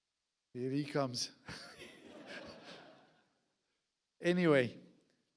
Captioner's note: audience laughs